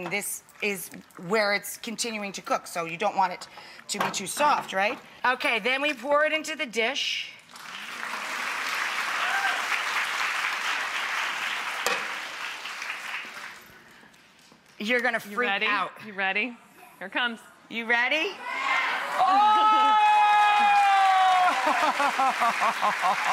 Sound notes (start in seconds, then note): 7.5 audience claps; 21.4 laughs